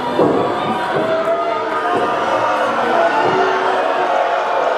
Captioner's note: audience booing